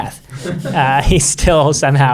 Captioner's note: everyone laughing